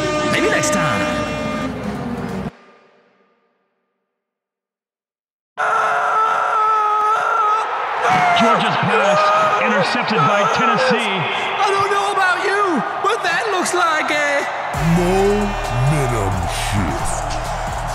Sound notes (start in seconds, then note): 5.6 loud crowd cheering; 14.3 robot voice